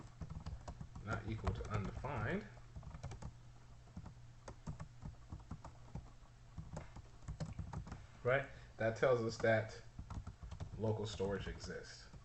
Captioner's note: typing sounds